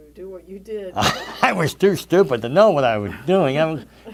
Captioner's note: laughs